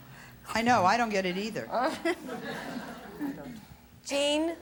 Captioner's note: audience laughs